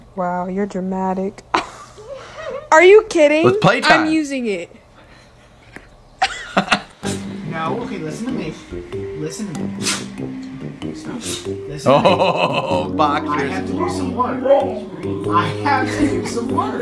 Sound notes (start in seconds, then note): 6.2 laughing; 9.7 dog sneezing